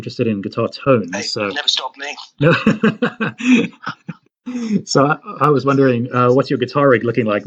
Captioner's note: laughs